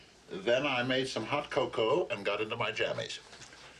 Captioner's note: none